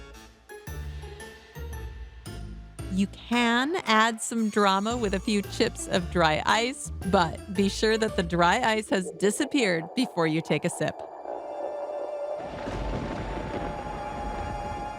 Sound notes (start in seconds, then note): 12.2 thunder